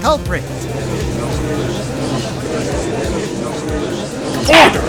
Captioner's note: gallery chattering